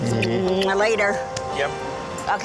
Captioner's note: lips smacking